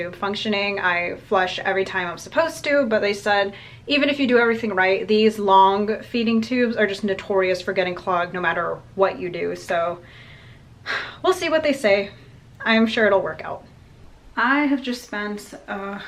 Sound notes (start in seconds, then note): 10.8 sighs